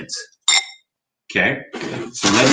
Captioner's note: bag rustles